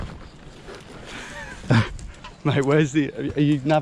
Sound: soft laughing

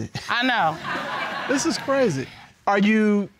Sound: audience laughs

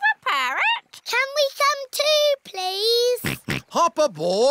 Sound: snorts

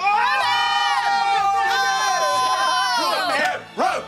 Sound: cheering

